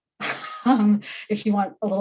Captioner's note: laughs